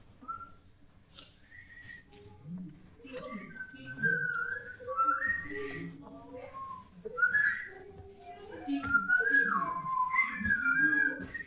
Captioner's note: bird like sounds and whistling